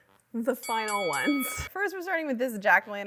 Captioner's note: bell dinging